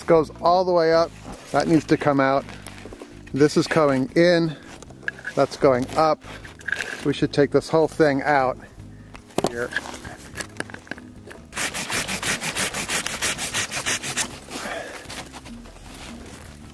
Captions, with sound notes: This goes all the way up. That needs to come out. This is coming in. That's going up. We should take this whole thing out here. (saw scrapes against wood)